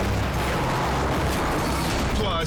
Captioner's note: car crushes